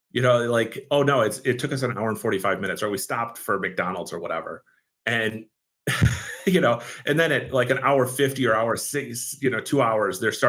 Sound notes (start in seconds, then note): 5.9 laughs